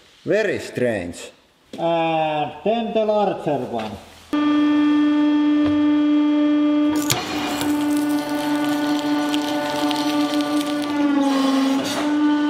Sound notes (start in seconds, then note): 1.7 muffled, through mask